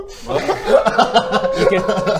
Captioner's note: laughs